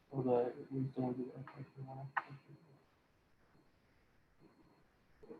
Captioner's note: speaking faintly